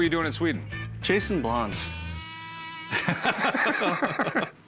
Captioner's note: laughter